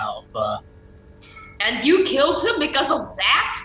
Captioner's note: incredulous